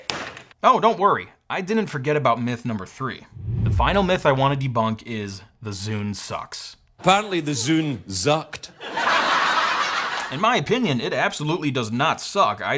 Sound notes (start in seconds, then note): 8.8 crowd laughs